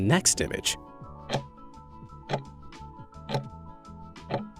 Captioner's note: timer ticking